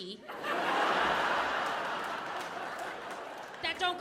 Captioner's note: audience laughing